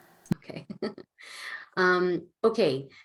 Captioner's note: laughing